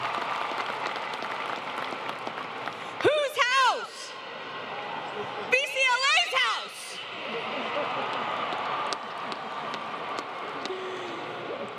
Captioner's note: applause